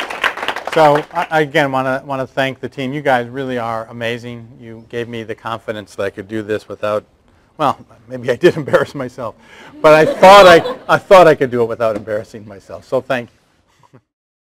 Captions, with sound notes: So I again I wanna thank the team. You guys really are amazing. You gave me the confidence that I could do this without, well maybe I did embarrass myself, but I thought-- (laughter) but I thought I could do it without embarrassing myself. So thank you.